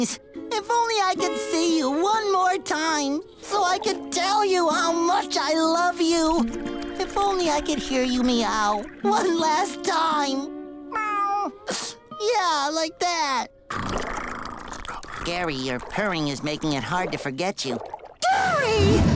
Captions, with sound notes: If only I could see you one more time, so I could tell you how much I love you. If only I could hear you meow one last time. [meowing] Yeah, like that. [purring] Gary, you're purring is making it hard to forget you. Gary!